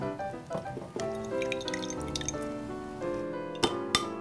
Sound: banana water dripping; bowl clinking

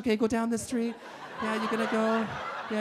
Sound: audience laughing

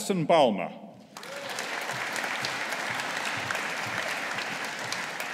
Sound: audience applauding

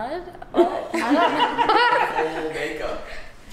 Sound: laughing

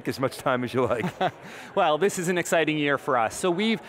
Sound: laughter

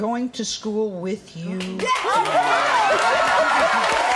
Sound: applause

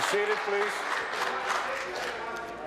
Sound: applause

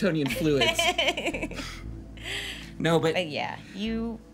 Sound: Annabelle laughs

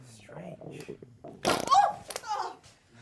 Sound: splat noise

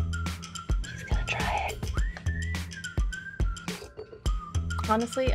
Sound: upbeat music; whispering

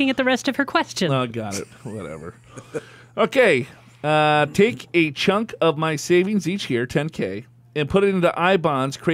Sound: laughs

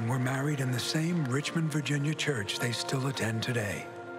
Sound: none

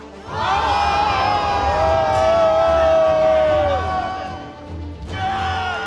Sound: cheering

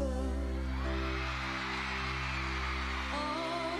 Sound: cheering

